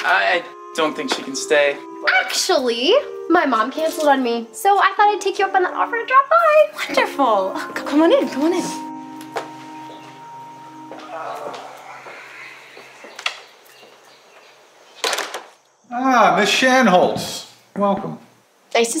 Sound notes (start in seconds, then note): 10.9 groans